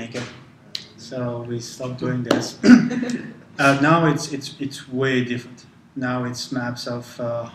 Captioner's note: laugh